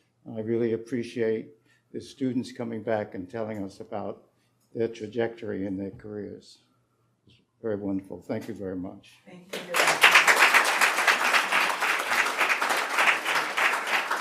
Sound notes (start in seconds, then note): 9.5 audience clapping